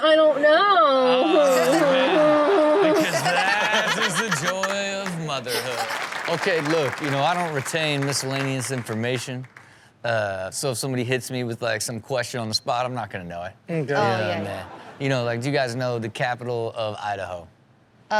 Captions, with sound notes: - I don't know. (audience laughs) - Oh, man. Because that is the joy of motherhood. (audience clapping) - Okay, look, you know, I don't retain miscellaneous information, so if somebody hits me with like some question on the spot, I'm not gonna know it. - Oh, yeah. - Yeah, man. You know like, do you guys know the capital of Idaho?